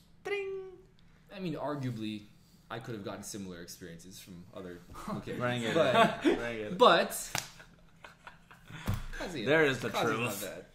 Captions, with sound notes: - I mean, arguably I could've gotten similar experiences from other locations. (laughs) but, Qazi's not bad.